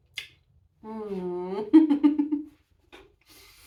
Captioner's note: laughing